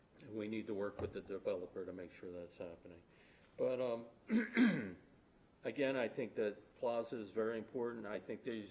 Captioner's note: clears throat